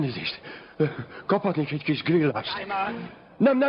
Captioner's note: speaking chinese